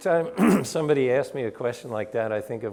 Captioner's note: clears throat